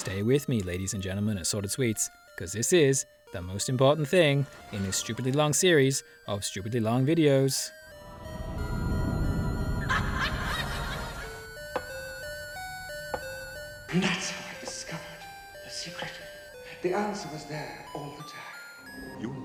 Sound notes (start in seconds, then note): 11.8 slow footsteps